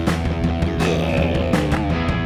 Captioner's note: zombie growl